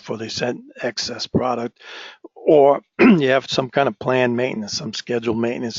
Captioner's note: cough